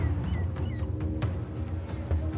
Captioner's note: bird squawking